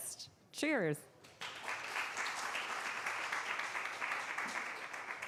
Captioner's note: applause